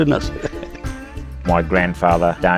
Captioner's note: laughing